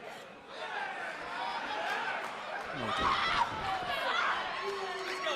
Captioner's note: crowd chatter